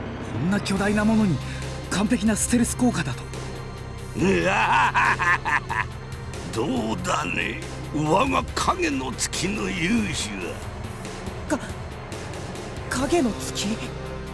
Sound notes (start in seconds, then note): 4.2 evil laugh